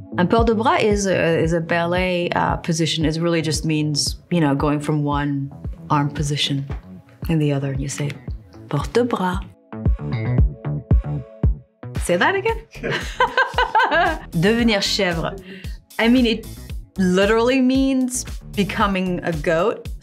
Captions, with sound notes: Un port de bras is a ballet position. It really just means, you know, going from one arm position in the other and you say, "Port de bras." [lively music] Say that again. [chuckles] Devenir chevre, I mean, it literally means becoming a goat.